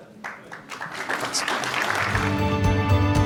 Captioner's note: audience applauding; mellow music